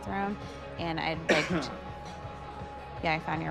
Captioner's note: cough